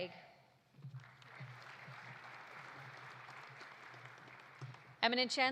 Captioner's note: audience applauding